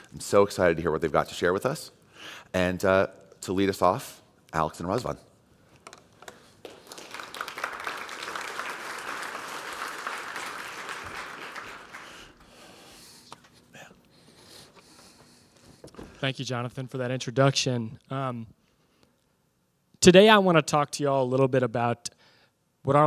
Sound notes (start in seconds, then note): 6.6 applause